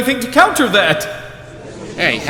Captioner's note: gallery chattering